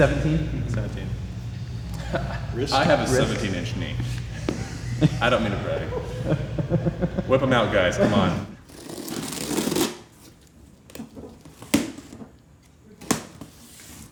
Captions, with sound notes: - 17. - 17. - I have a 17-inch knee. I don't mean to brag. (laughter) Whip 'em out guys, come on. (knife scrapes against box)